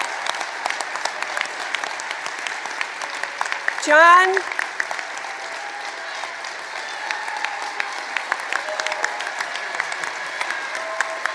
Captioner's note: applause